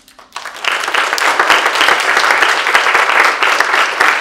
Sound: audience applauding

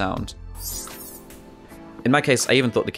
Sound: sound effect plays again

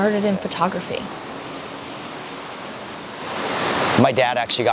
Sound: waves crashing

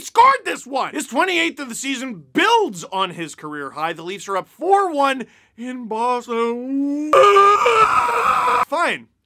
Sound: screaming

